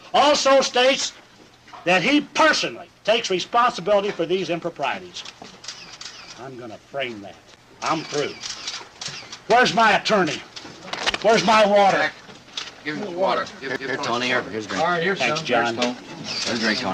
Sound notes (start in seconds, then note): 5.6 camera clicking